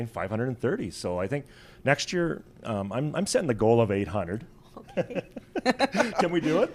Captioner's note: laughs